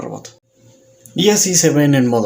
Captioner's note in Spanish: Silencio